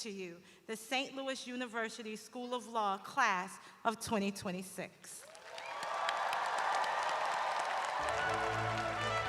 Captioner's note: cheers and applause